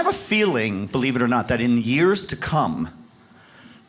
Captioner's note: none